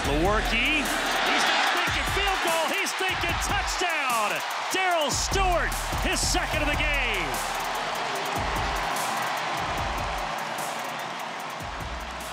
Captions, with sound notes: The work, he's not thinking field goal! He's think' touchdown! Darryl Stewart! His second in the game! (crowd cheers)